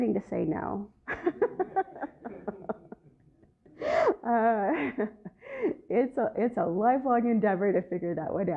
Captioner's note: laughter